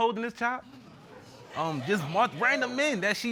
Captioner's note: audience murmuring